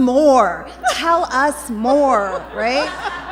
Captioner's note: laughter